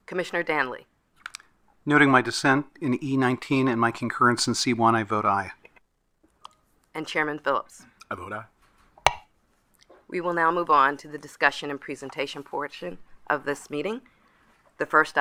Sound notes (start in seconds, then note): 9.0 gavel bangs